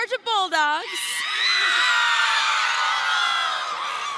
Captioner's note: cheering